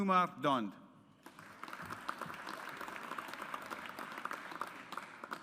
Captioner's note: audience applauds